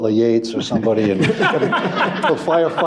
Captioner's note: laughter